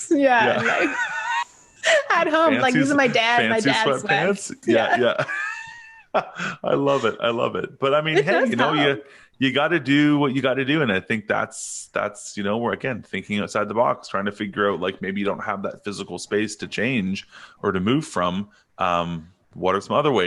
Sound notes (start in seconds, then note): 0.4 both laughing; 4.6 laughing; 4.6 chuckles